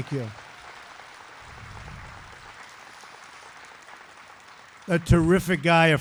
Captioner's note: applause